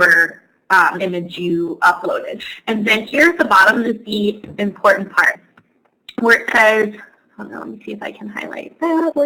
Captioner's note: talking to herself